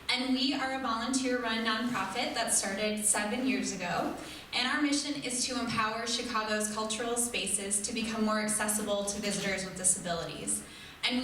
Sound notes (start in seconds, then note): none